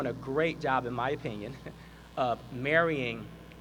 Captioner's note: laughs